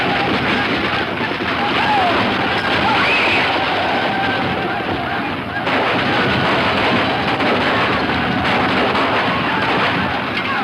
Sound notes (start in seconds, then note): 1.7 squeals; 4.7 guns firing